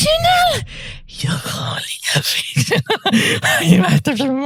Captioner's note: laughs while losing sanity